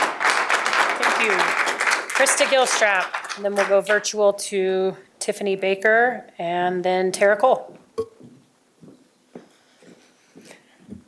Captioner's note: applause